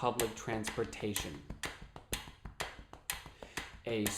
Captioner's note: tapping and ticking sound